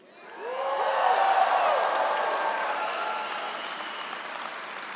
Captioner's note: crowd cheering and applauding